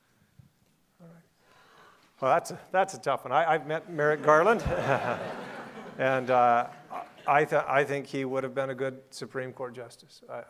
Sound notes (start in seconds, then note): 3.9 audience laughing